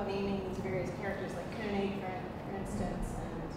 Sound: speaking foreign language

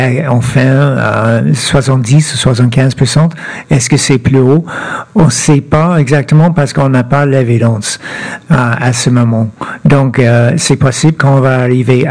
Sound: speaking French

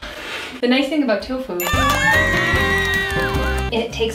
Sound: audience claps and woots

